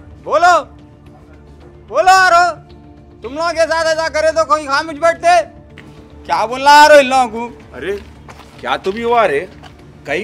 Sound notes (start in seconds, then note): 2.6 Shouting